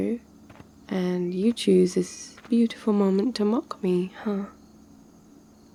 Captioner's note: footsteps stop